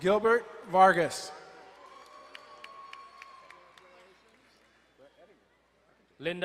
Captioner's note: crowd cheering and applauding